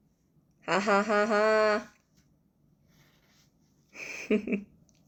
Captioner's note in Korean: 웃음